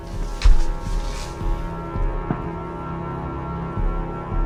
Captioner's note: footsteps thudding